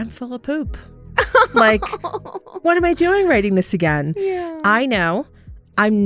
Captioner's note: laughter